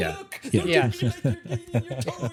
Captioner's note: laughing